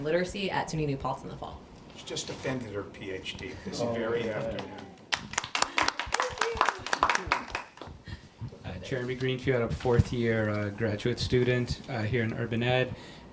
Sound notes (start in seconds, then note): 4.4 group applauds